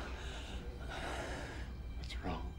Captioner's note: scared